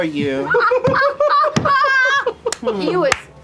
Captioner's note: laughter